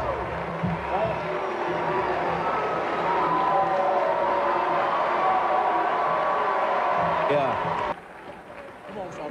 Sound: booing from the crowd

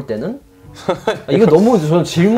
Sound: haha

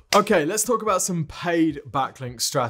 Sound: graphic thuds

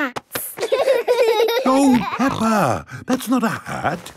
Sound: laughing

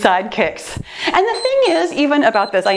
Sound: timer beeps

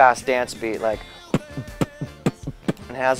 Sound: beatboxing

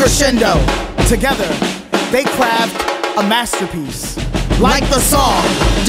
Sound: male Voice

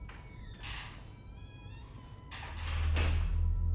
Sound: door creaks

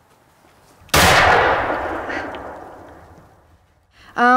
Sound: gunshot

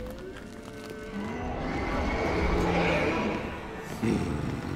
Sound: roar; fierce growling

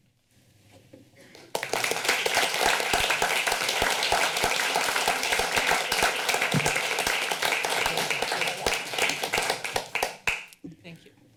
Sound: applause

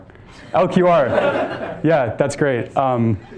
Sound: students laughing

